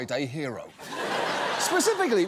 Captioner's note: audience laughs